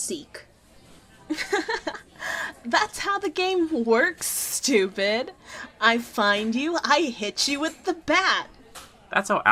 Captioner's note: laughs